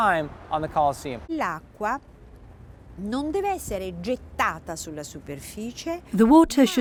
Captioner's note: speaking in foreign language